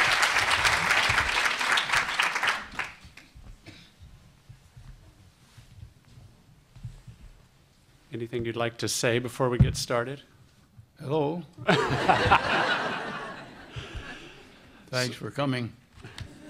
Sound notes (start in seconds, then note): 11.6 laughter